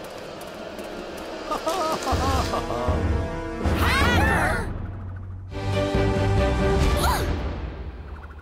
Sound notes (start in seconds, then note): 1.4 laughs